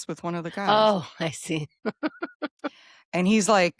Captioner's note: laughs